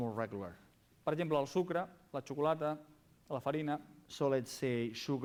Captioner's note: non-english speech